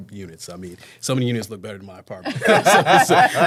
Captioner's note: laughing